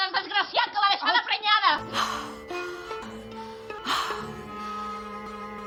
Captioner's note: breathe hard